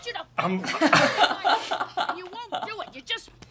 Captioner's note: laughter